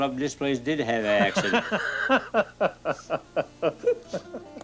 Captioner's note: laughs; banjo music plays